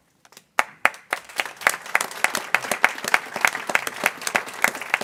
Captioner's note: people clapping